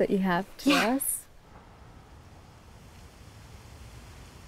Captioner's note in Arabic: نسيم ناعم